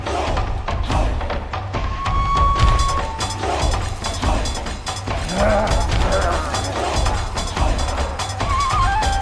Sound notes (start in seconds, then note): 5.4 zombies growling